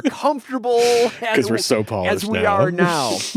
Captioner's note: laughs